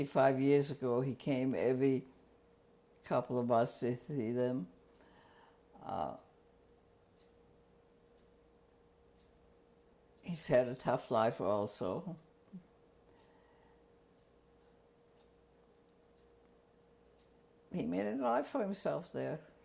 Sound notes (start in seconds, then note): 6.2 pauses for 6 seconds; 12.2 pauses for 6 seconds; 19.4 pauses for 3 seconds